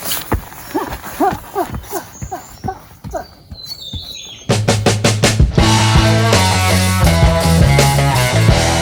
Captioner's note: laughs